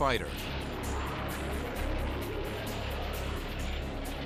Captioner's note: jet engine noises